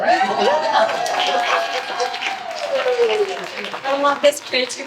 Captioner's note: applause